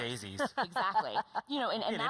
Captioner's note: laughter